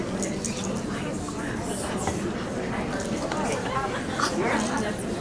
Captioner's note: audience chattering